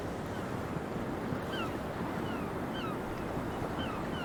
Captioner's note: gulls calling